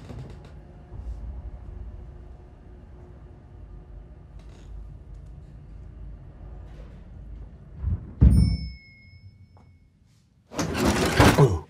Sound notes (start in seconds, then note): 0.1 floorboard creaking; 8.2 dumbwaiter dings